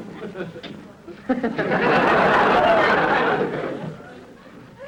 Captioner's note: audience laughter